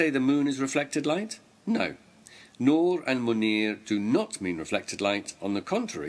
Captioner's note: arabic words